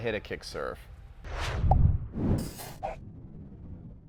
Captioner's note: swishing